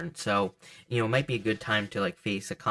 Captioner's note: cards shuffle softly